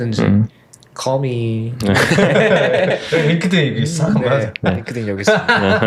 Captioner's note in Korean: 웃음